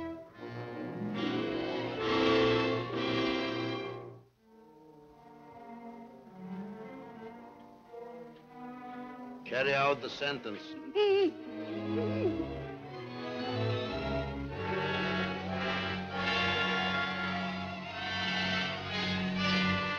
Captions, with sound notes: Carry out the sentence. (mother moaning) (dramatic music)